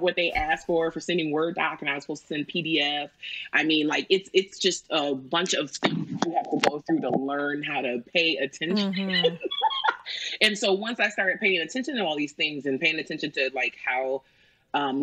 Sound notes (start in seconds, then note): 8.7 laughs